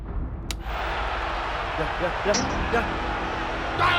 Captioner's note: cheers and applause on television